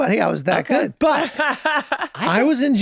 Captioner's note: laughing